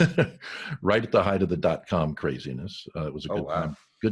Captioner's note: laughs